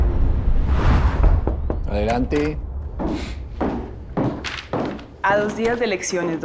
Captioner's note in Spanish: Toques en la puerta